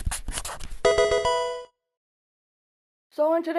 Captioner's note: pencil writing; Pokemon game sound